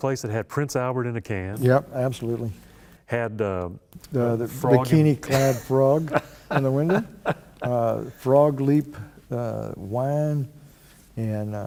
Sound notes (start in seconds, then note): 5.2 laughter